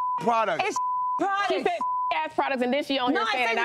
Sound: beep; beep

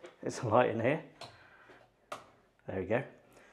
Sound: light switch clicking

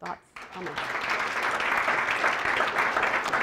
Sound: applause

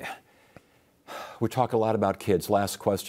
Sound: sighs

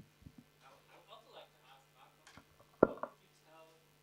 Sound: audience member speaking

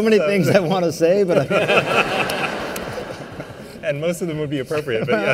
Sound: laughter

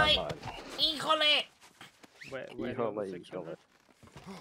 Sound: complains in Spanish

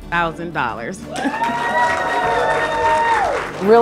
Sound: cheering

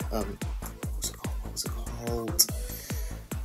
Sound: hushed

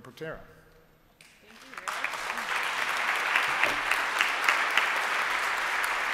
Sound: applause

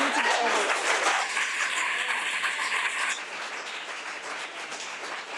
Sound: audience applauding

